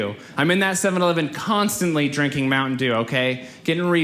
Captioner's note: none